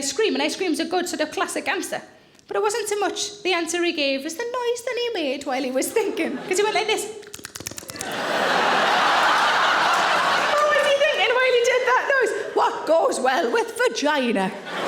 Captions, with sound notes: And ice cream is good, its like a classic answer. But it wasn't so much the answer he gave but it was the noise he made while he was thinking. Because he went like this. (audience laughing) What was he thinking while he did that noise? What goes well with vagina?